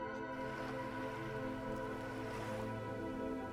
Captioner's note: waves lapping